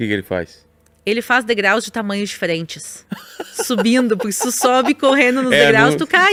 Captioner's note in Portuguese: risadas